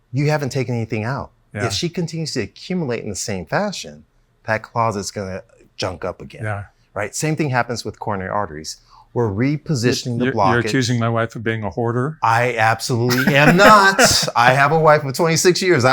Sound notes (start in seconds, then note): 13.0 laughs